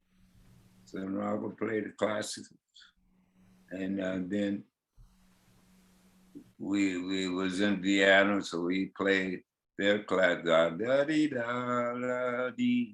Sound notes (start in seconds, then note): 8.5 hums